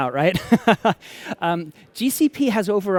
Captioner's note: laughter